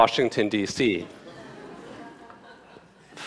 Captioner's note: laughter